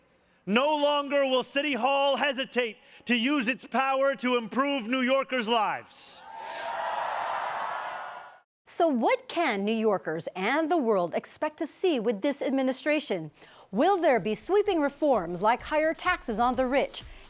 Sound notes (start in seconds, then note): 6.2 cheers and applause